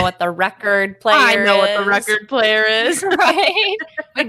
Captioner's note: laughs